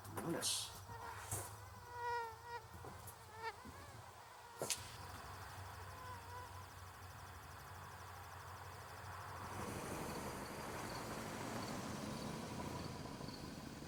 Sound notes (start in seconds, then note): 0.5 fly buzzing